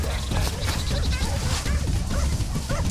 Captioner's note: dogs barking